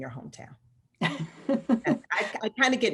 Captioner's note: laughs